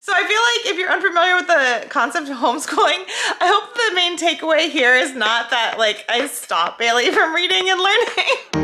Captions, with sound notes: - So I feel like if you're unfamiliar with the concept of homeschooling, (laugh) I hope the main takeaway here is not that, like, I stop Bailey from reading and learning.